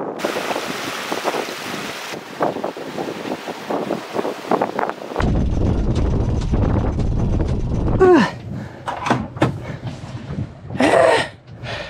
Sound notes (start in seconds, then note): 0.0 water gurgling; 3.1 wind blowing; 5.8 equipment clicking; 8.0 grunting